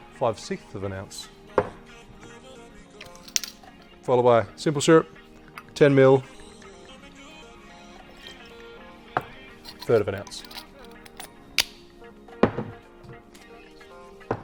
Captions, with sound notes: Five sixth of an ounce. Followed by Simple Syrup, 10ml, (syrup pours) third of an ounce. (lid clicks)